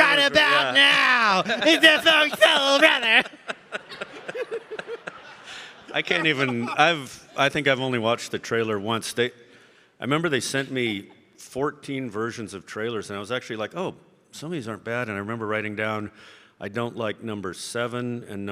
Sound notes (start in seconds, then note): 3.4 all laughing